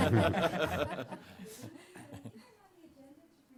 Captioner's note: laughter